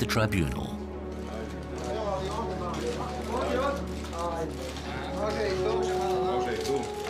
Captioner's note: sound of cameras